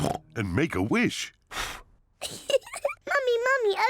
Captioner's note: blows; giggles